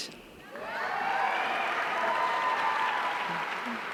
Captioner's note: audience cheering